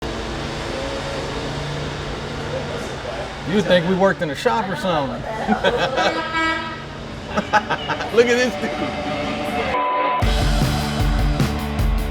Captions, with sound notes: You’d think we worked in a shop or something? [Laughter] [Truck horn] [Laughter] Look at this dude!